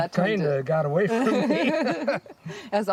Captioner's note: laughing